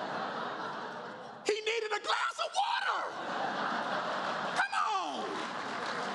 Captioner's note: laughter